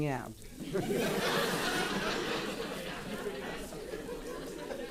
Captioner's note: audience laughing